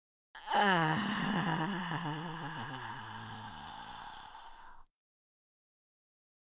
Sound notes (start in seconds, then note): 0.3 moan